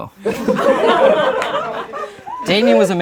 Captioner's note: laughing